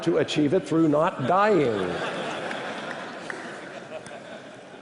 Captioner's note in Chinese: 笑聲